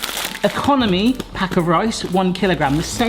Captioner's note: package rustling